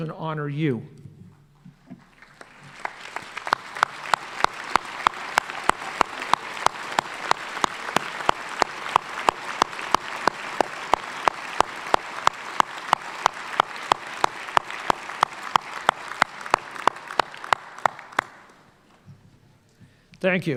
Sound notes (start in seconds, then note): 10.3 applause